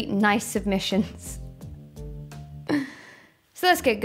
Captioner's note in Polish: śmiech, a w środku ból